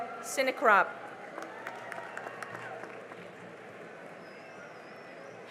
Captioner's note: cheering and applause